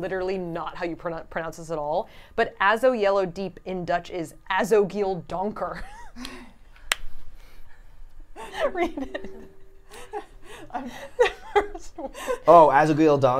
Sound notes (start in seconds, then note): 5.8 speaks Dutch; 8.4 laughs